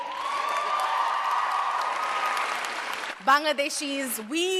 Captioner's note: cheers and applause